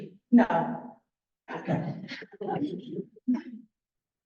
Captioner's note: laughter